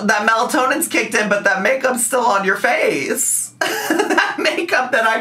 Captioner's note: laughs